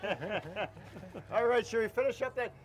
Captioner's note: laughing